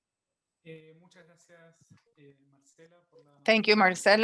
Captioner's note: speaking in a foreign language